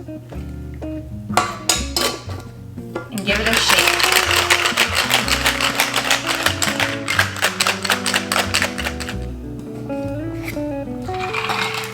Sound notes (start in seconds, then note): 3.1 ice rattling; 11.0 cocktail pouring; 11.1 ice clinking